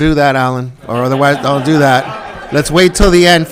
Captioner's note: all laughing